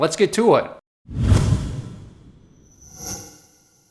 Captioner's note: logo slams